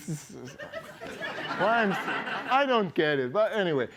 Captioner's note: laughter